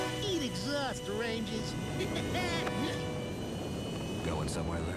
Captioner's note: laughs